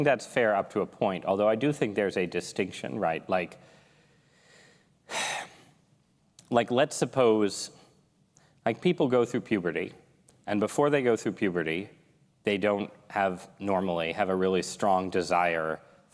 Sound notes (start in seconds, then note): 5.1 sigh